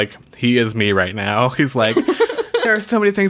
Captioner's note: laughs